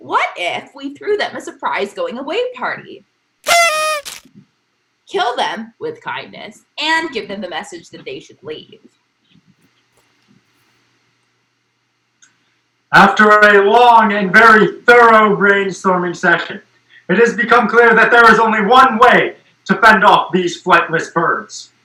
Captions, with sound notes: What if we threw them a surprise going-away party! (party noise maker) Kill them, with kindness, and give them the message that they should leave... After a long and very thorough brainstorming session it has become clear that there is only one way to fend off these flightless birds: